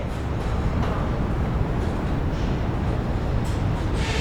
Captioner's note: train rumbling